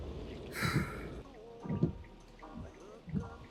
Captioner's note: Len sighing; soft music continues; wipers thudding